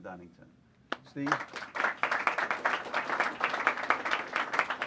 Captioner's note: applause